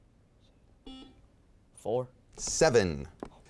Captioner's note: beeping